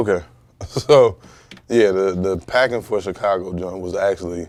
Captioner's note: chuckles